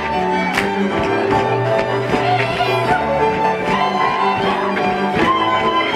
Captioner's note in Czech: Potlesk